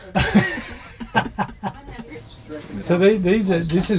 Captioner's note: laughing